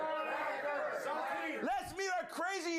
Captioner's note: audience shouts answers